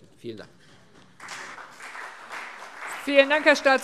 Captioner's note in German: Beifall CDU und BÜNDNIS 90/DIE GRÜNEN